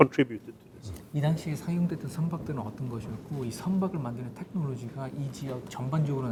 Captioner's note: speaking in Korean